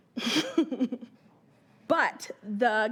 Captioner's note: chuckling